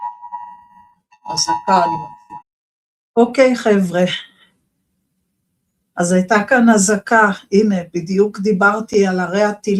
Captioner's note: air Raid Siren